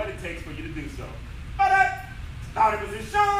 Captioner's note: enthusiastic shouting